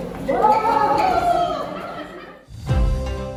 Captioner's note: teachers exclaim